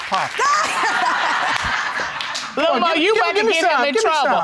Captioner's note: laughing